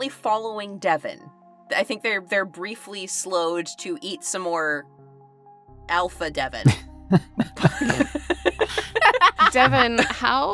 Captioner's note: EVERYONE chuckles